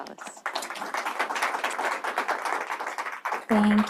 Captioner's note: applause